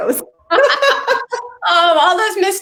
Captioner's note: both laughing